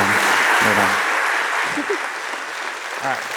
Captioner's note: laughs